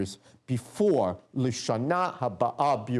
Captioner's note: non-english speech